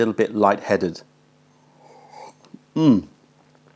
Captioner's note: sips tea